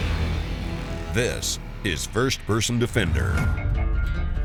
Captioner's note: voiceover; voiceover